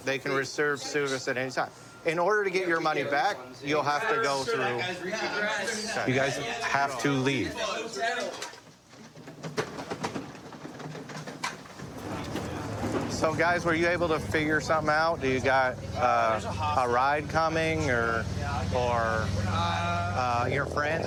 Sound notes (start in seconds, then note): 4.6 arguing